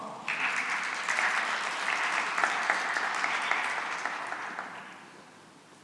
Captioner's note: applause